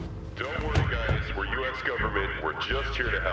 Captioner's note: loudspeaker